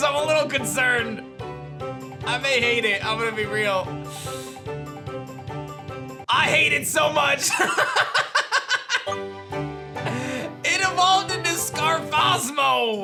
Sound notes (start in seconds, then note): 7.4 laughs